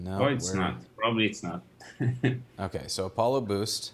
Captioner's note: laughs